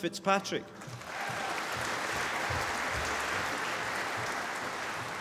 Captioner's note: applause